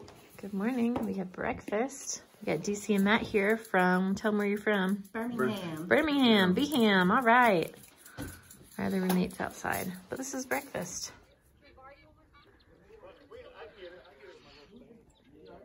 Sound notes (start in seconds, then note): 8.0 salt shaker shaking; 11.8 birds chirping